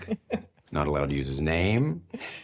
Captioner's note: laughs